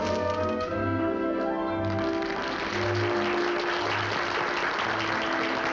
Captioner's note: applause